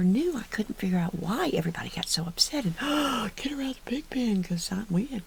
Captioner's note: gasp